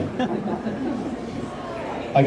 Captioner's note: laughter